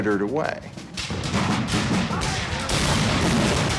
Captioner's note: cannons and Gunfire